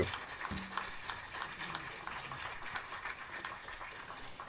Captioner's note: crowd clapping